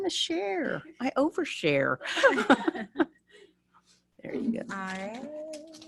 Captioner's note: laughing